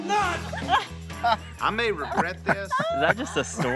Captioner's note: all laughing